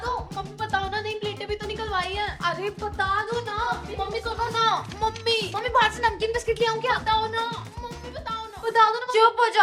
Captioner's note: chattering